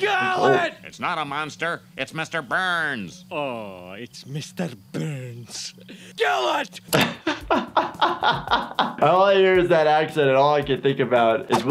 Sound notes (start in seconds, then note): 5.8 gasps; 6.8 laughing